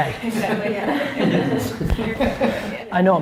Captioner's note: laughs